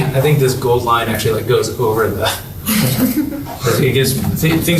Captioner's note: laughter